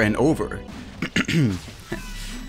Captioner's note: cough